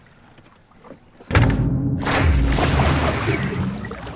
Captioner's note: strong collision and sinking sound